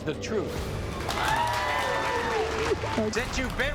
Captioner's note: crowd cheering; applauding